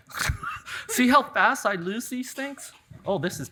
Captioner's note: laughs